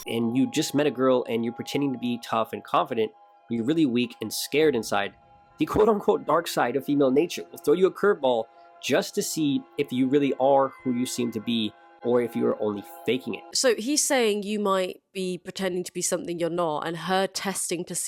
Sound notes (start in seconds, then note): none